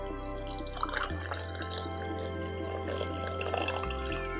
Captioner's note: coffee pouring